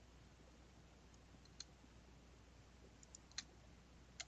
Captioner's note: mouse clicking